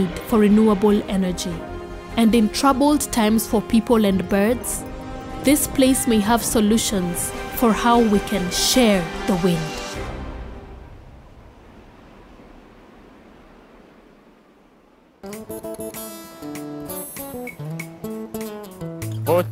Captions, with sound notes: A growing population drives an ever greater need for renewable energy. And in troubled times for people and birds, This place may have solutions for how we can share the wind. (gusts of wind)